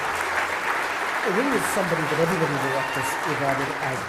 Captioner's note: applause